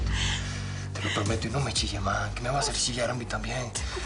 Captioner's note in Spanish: Susurra